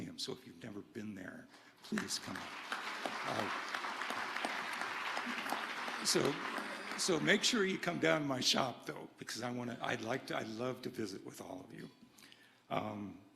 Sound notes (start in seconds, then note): 1.8 audience applauding